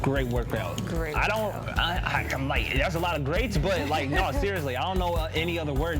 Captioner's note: stammering